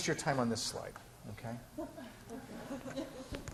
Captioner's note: laughing